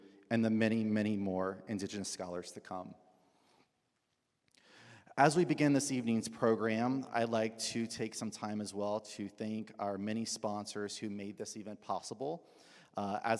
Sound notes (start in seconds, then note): none